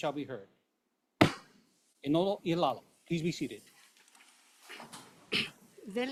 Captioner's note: gavel bangs once